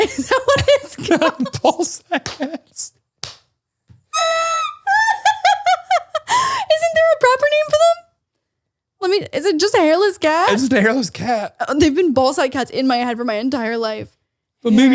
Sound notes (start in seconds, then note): 4.1 laughing